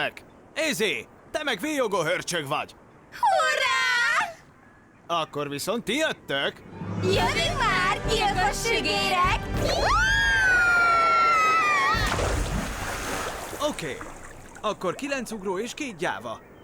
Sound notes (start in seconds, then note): 9.6 screaming